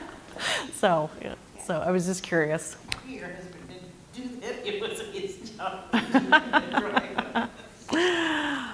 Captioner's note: laugh